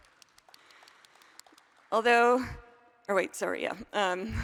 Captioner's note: applause